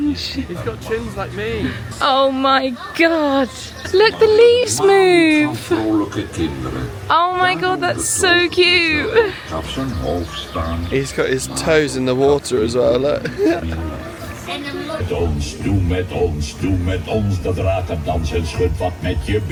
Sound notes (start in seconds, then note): 6.1 tree speaking in foreign language; 12.6 chuckling; 15.0 tree singing in foreign language